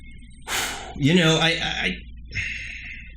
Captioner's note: sighs